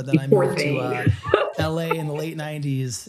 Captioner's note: laughs